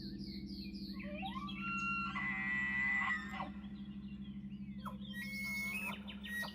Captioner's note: elk screaming in the distance